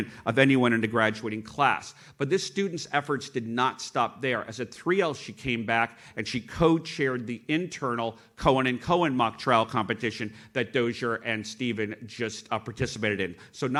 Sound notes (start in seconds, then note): none